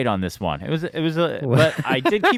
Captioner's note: laughs